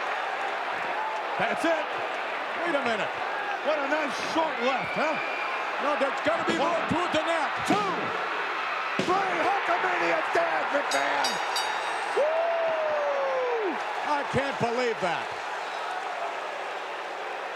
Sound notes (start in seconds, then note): 10.6 bell ringing; 11.6 audience cheering